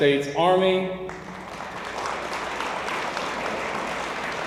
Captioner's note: audience applauds